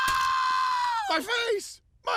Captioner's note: screams